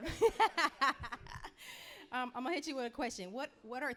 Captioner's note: laughing